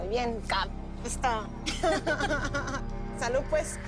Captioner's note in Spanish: Risas